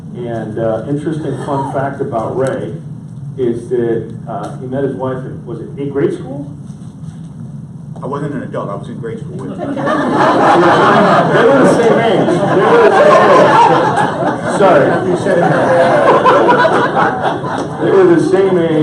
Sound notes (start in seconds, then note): 9.8 audience laughs